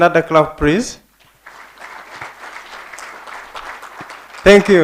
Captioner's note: applause